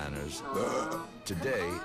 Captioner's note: man belching